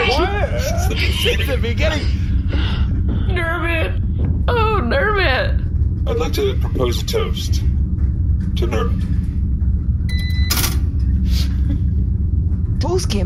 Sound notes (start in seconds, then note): 4.2 sobbing; 6.8 somberly